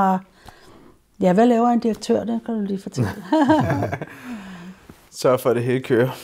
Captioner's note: laughs